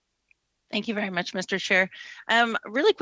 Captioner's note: speaking French